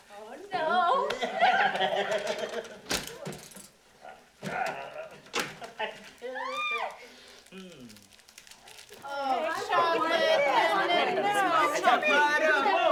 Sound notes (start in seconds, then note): 0.2 laughing; 4.0 grunts; 6.3 screams